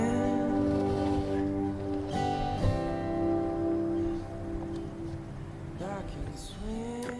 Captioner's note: quiet music; stand scrapping